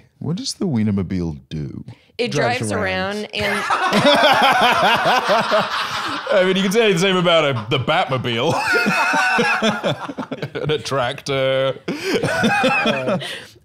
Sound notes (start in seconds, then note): 3.4 both laughing; 12.5 laughs